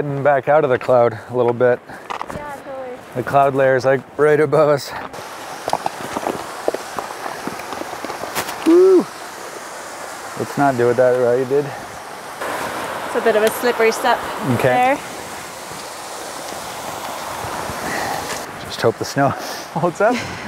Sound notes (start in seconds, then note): 5.3 water rushing; 20.3 laughs